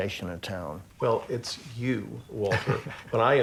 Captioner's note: chuckles